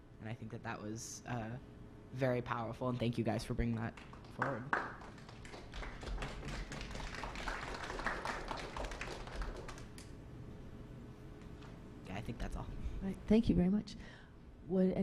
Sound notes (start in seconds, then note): 6.7 clapping